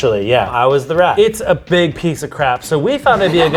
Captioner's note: group laughs